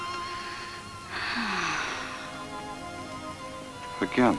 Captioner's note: Ellen sighs